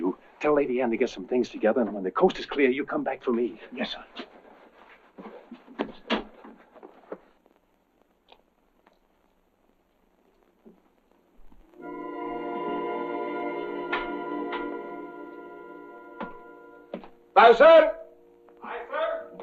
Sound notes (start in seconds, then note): 11.8 ominous music; 14.3 door opens; 16.1 footsteps approaching